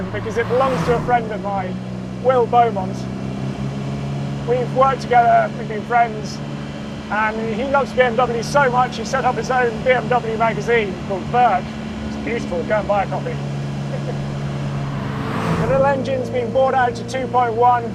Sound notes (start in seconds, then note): 3.0 vehicle revs; 13.7 vehicle revs; 13.9 laughs